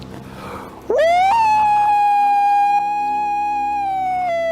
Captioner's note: aullando